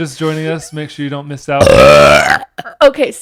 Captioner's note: burps